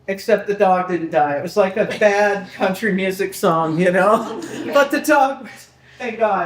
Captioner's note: people laughing